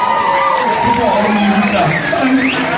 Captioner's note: cheers